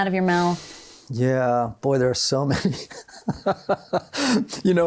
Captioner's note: laughs